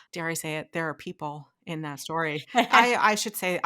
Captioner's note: laughing